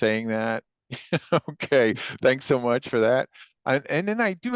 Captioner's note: chuckles